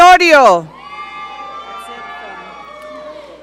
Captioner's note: audience cheering